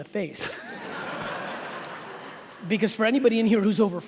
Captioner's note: laughing